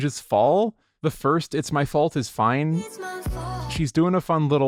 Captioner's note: "it's my fault" echo